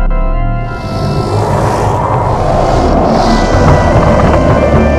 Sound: distorted growling

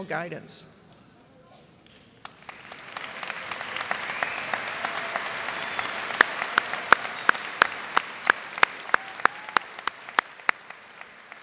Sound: applause

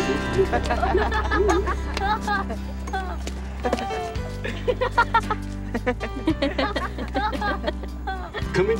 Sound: laughs

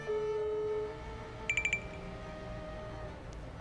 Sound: phone ringing

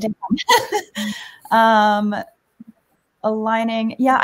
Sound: laughs

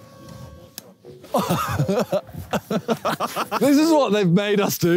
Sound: Simon giggling

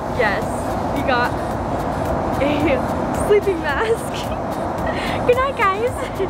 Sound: laughs

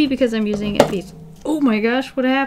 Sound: snap

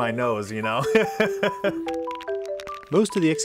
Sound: laughs

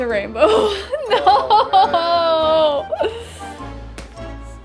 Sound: laughs

